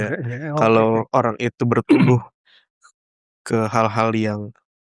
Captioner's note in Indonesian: berdehem